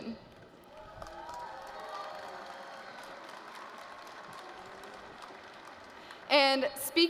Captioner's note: applause